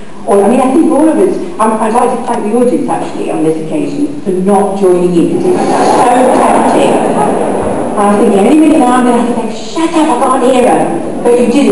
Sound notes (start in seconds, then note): 5.4 audience laughs